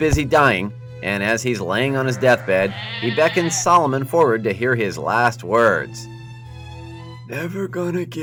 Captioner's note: Solomon and 3 sheep crying